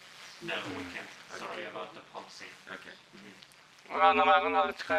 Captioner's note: speaks in foreign language